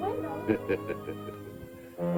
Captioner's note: laughs